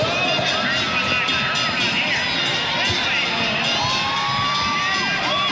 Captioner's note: loudspeaker over crowd